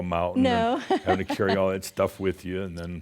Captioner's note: she chuckles